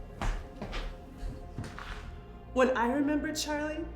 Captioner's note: soft suspenseful music; footsteps tapping